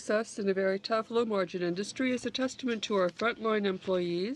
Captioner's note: speaking french